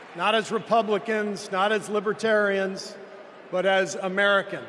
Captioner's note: applause